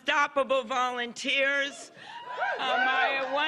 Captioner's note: cheers and applause